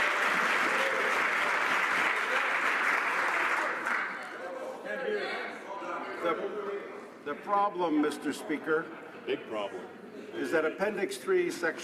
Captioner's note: some Applause